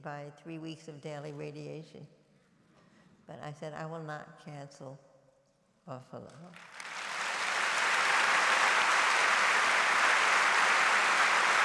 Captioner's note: applause